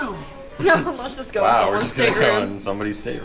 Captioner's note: laughs